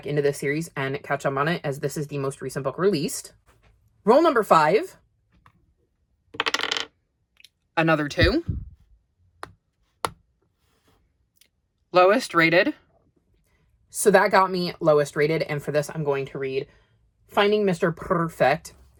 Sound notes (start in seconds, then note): 6.3 sound of dye landing on the desk; 8.8 sound of tapping as the kitty moves